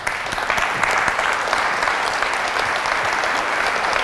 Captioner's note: applause